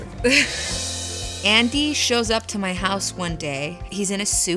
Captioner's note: laughs